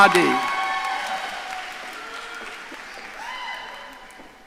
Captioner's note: audience cheering